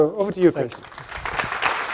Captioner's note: applause